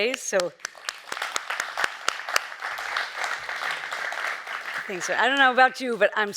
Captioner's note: clapping; audience applauding